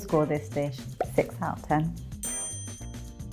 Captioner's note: scores ding; number pops